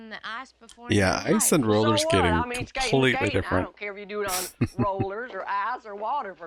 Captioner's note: chuckling